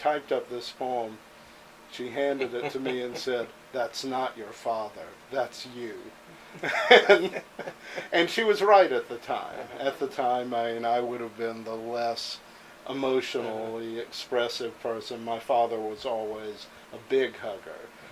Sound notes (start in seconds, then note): 6.3 chuckles